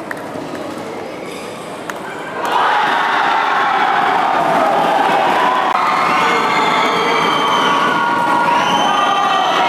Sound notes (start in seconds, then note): 5.2 applause